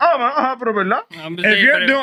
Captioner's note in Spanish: Hablando en idioma extranjero